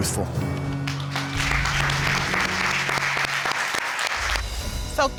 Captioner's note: audience applauds